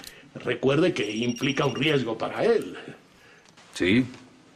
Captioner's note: phone ringing